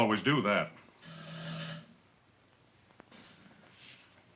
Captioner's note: door bell buzzing